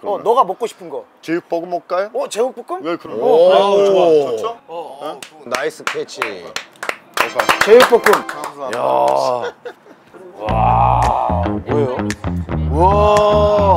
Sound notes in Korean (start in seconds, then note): 3.0 감탄; 5.4 박수